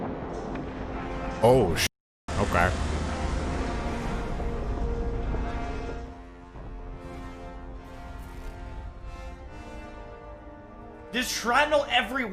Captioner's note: clip of explosion